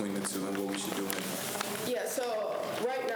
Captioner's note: faintly speaking